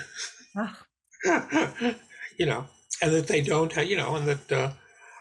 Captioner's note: chuckling